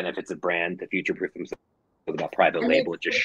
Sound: audio breaking

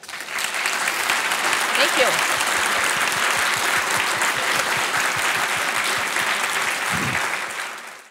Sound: clapping

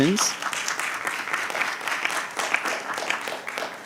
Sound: clapping

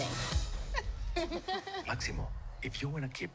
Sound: both chuckling

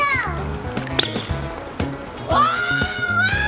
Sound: toy squeaks; yelling

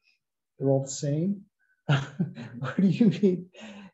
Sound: laughter

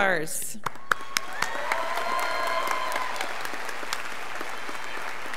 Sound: students applauding

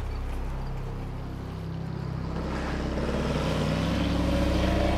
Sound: motor revving

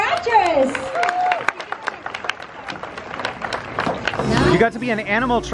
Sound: audience clapping

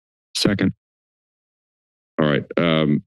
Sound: silence

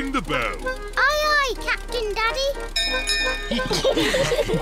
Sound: bell rings; all laugh

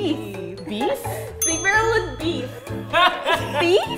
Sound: ding!

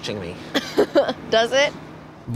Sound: laughs

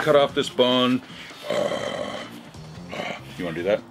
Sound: roaring

